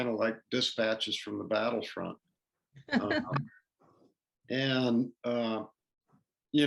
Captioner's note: laughter